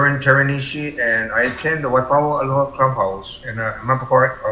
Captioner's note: hawaiian dialect